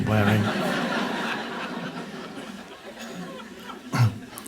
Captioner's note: audience laughs